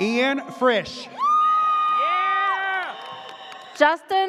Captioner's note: audience cheers